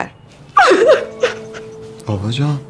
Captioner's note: crying